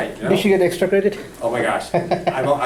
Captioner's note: voiceover